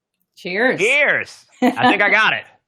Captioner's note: laughs